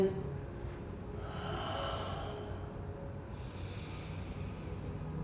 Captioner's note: breathing deeply